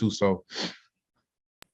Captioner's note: sniffs